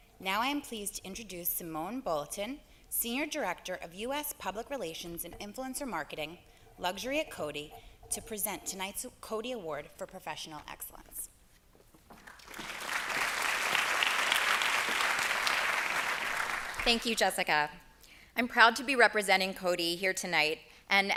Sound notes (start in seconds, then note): 15.4 applause